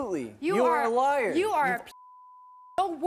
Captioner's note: beep